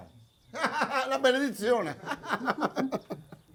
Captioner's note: laughing; all laughing